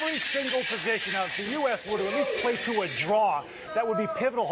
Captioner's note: cheers